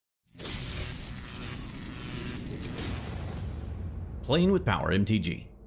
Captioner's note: electricity whirring